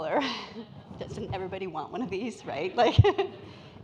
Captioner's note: laughs